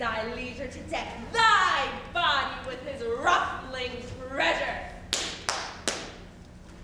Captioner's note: claps